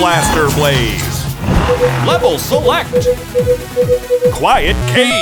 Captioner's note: beeping